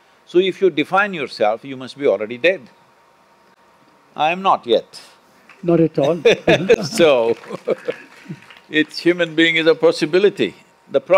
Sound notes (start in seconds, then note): 5.4 applause; 6.1 Sadhguru laughs